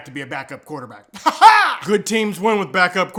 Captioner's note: weird laughing again